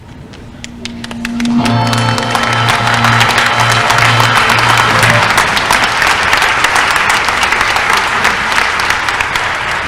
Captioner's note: applause